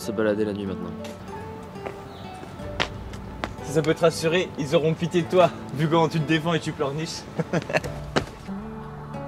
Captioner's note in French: Rire de Mad